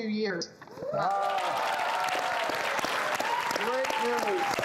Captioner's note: audience applauds